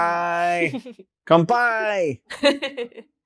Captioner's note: chuckles; chuckles